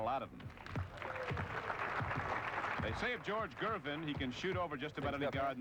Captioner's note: applause